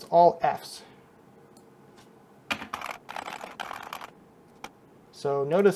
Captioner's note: keyboard clacking